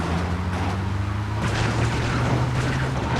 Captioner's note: gun firing